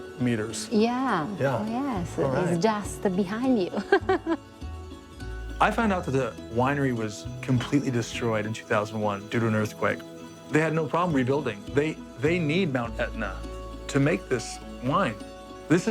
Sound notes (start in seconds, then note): 3.6 laughing